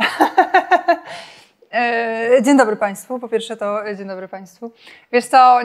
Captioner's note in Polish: śmiech